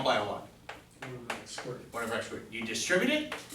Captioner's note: voiceover